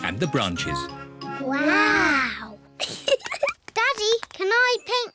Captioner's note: both giggle